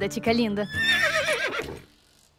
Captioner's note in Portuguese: cavalo relinchando